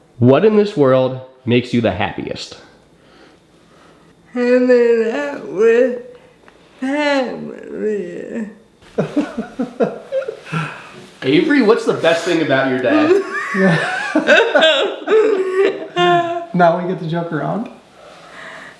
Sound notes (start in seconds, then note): 8.9 dad laughing